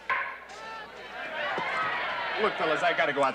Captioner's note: bat strikes